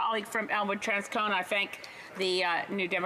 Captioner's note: speaking french